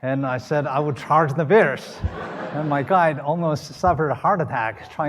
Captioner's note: laughter